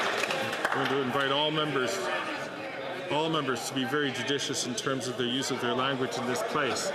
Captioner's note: some Applause